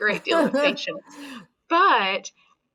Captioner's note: laughing